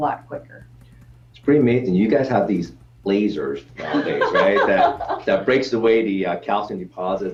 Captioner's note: laughter